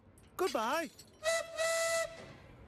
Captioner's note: toot-Toot